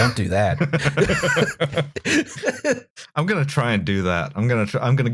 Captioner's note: laughter